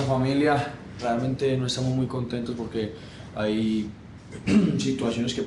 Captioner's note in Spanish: se despeja la garganta